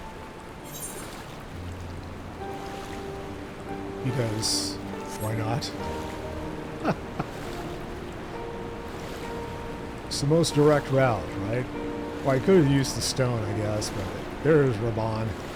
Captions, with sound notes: Because, why not? [laughs] It's the most direct route, right? Well, I could have used the stone, I guess, but there's Rabon.